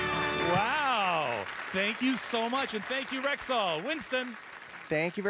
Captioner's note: cheers and Applause